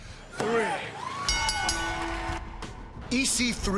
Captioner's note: bell ringing